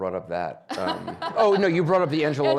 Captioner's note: audience laughing